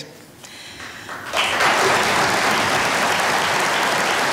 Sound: audience applauding

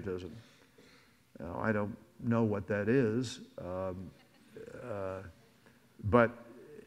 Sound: audience laughs

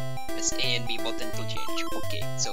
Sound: Mario pause sound again

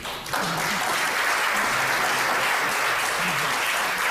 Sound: audience applauds

